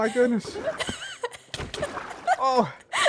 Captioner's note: laughs